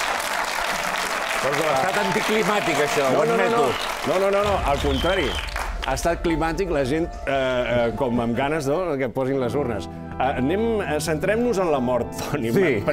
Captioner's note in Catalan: aplaudiments